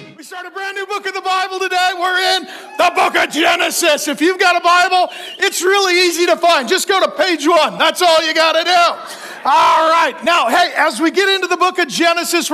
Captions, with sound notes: - We started a brand new book in the Bible today, we're in the book of Genesis. If you've got a Bible, it's really easy to find. Just go to page one, that's all you gotta do. (congregation laughing) All right. Now hey, as we get into the book of Genesis,